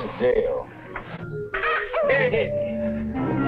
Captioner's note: people cheering and chattering; soft instrumental music